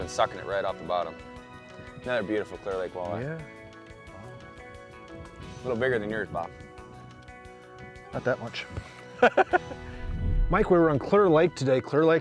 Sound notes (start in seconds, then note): 9.2 laughter